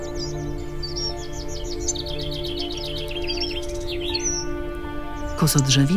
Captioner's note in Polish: w tle słychać śpiew zięby oraz siwerniaka